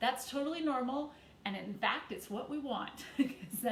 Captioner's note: chuckles